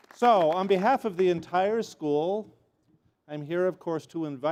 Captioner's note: applause